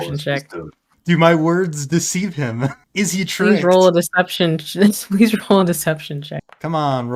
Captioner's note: laugh